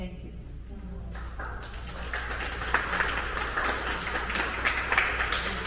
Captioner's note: attendees clapping